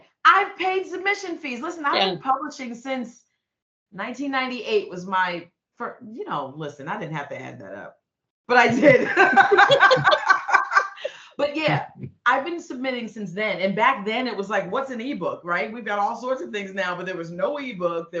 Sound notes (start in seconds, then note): 8.6 laughing